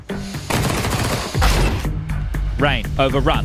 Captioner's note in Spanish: Disparos